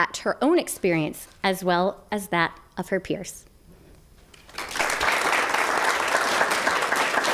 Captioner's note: clapping